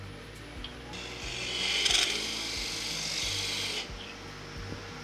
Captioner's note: machine whirring